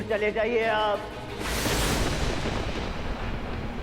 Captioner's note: lightning crackling